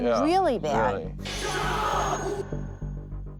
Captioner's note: groaning